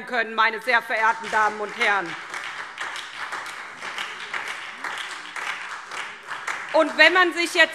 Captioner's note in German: Beifall SPD und Freie Demokraten